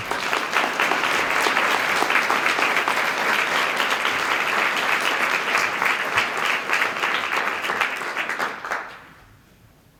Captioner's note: applause